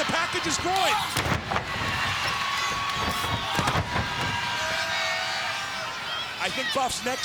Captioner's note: crowd cheering; body thudding